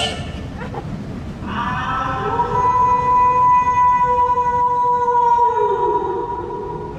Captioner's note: sneezed; wolf howl